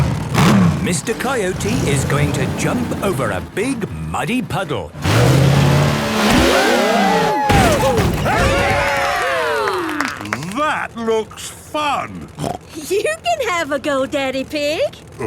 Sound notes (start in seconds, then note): 6.6 crowd; 8.9 applause